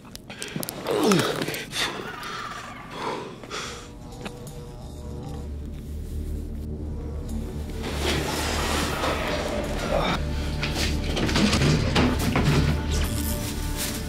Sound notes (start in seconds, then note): 2.0 creature trilling in distance; 11.2 rustling